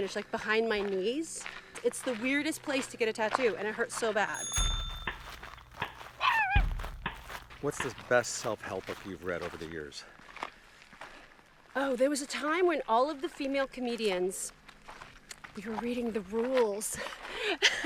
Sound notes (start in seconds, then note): 4.3 bicycle bell ringing; 6.5 dog barking; 17.4 chuckles